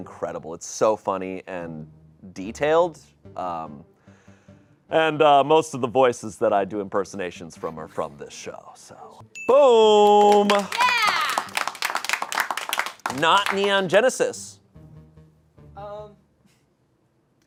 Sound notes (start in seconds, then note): 9.2 bell dings; 9.9 audience applauding